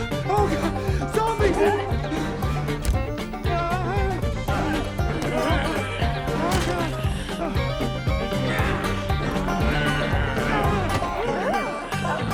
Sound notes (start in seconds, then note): 1.7 upbeat country music; 3.5 Homer yells, trembling; 8.5 zombies grunt; 11.2 Susan yells